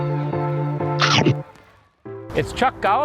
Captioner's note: upbeat music; chomping